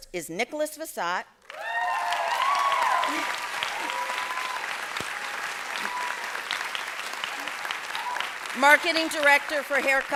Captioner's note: applause